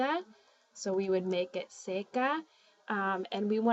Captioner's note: spanish